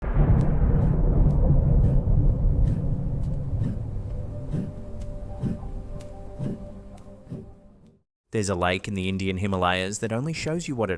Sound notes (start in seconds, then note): 0.0 wind blowing